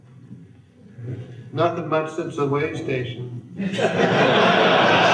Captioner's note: laughter